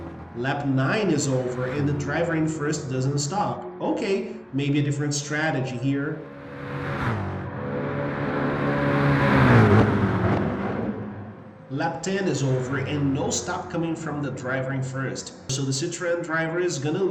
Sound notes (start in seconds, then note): 6.7 engines revving, cars noises